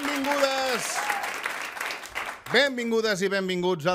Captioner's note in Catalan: aplaudiments